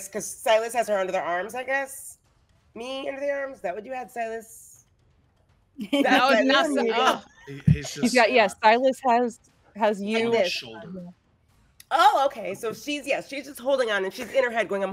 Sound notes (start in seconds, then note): 6.1 overlapping chatter